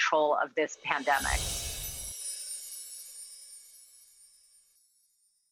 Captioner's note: windchimes ring